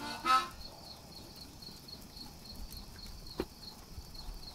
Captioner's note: crickets chirping